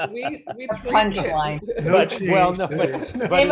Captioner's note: laughing